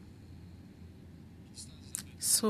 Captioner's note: speaking French